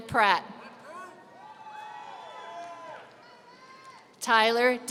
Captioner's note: audience cheering